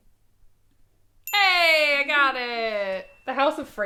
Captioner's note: bell dings